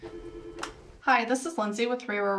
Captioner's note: phone rings